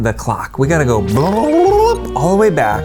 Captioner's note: tongue trilling